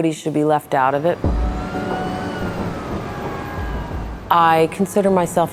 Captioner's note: sirens wailing